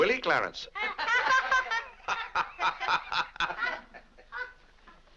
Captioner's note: family laughs